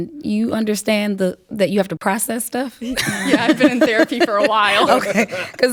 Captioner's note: laughing